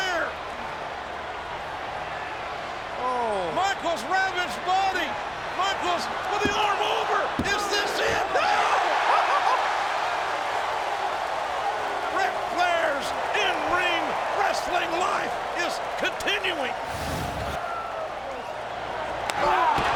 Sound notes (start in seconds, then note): 9.0 laughing; 16.9 crowd cheering